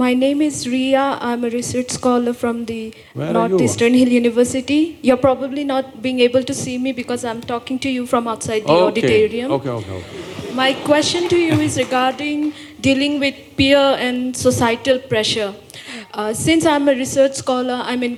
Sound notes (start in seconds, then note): 8.9 laughs; 9.6 laughter